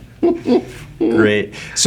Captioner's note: laughing